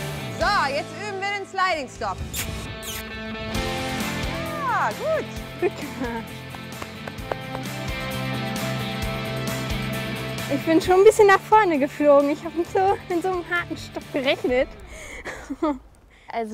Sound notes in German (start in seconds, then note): 2.2 Kussgeräusch